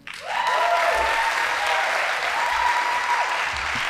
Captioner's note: audience applauding